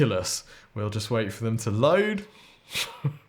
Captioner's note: laughs